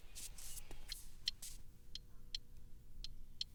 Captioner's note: ticking